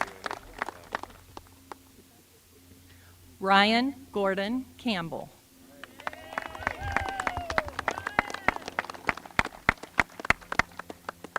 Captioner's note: applause